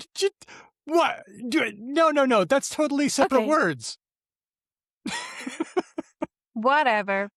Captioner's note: laughs